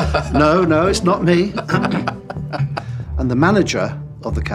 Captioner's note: laughing